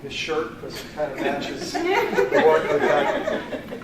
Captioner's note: laughter